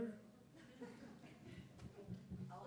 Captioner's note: laughter